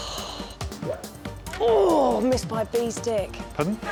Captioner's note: exhales